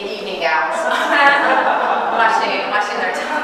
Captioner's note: audience laughing